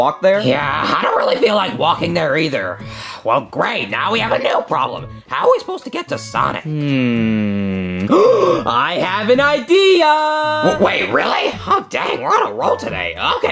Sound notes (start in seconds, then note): 6.7 gasps